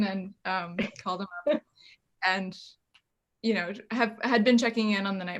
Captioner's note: laughs